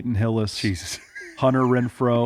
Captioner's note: laughs